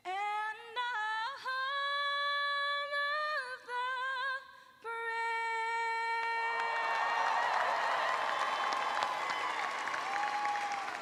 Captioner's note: cheers and applause